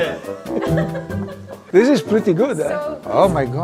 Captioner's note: group laughs